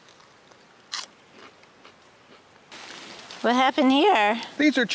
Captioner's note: crunching